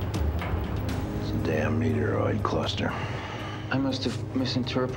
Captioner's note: sighing